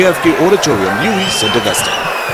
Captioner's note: wild applause and cheering for 22 seconds